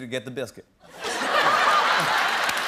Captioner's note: laughter; cheers and applause